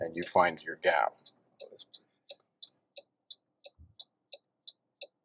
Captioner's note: car signaling